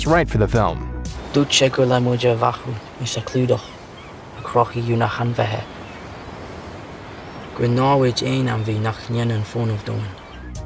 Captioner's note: speaking Gaelic